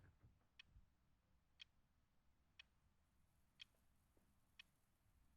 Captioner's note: clock ticking continues